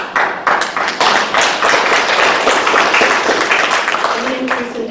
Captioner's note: applause